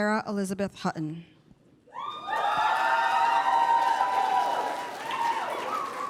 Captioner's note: applause